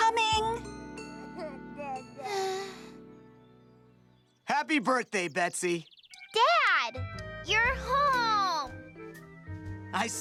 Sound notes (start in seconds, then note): 2.1 sighing